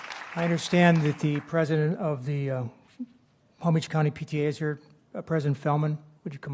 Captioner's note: applause